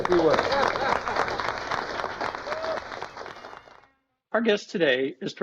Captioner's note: applause